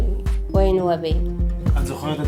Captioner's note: in Arabic